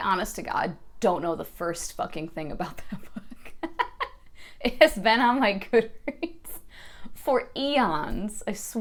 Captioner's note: laughing while talking